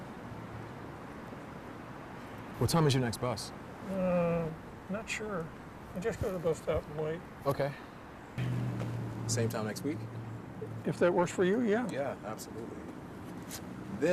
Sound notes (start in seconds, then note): 3.9 humming